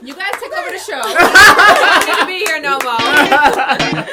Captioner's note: laughter